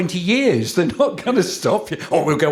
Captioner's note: chuckling